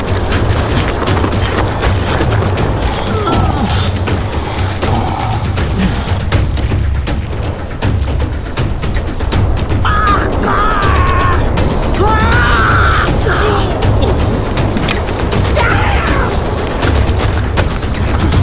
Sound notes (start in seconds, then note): 0.2 gravel crunching; 9.8 both grunting and yelling; 14.6 dramatic music continues